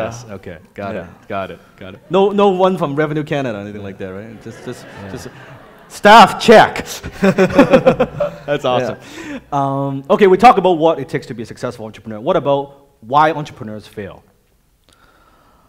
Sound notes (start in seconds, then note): 7.2 laughing